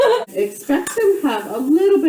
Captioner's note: laughs